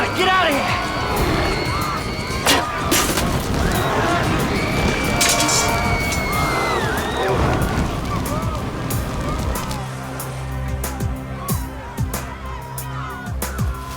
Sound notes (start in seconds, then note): 2.8 screaming